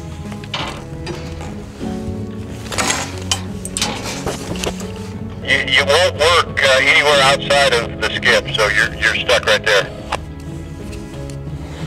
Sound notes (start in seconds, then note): 2.7 metallic clanging